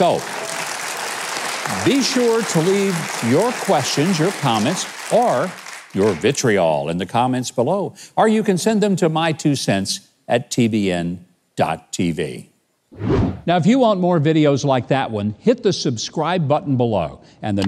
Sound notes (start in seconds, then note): 12.9 wind whooshing